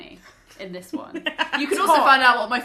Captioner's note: laughs